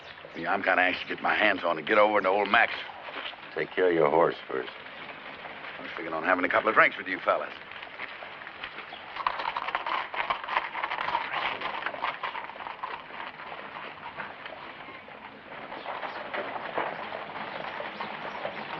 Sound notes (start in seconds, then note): none